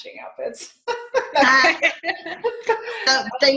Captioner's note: laughing